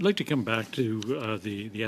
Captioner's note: speaking French